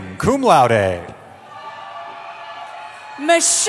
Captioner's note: cheering